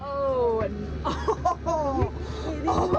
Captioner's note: laughter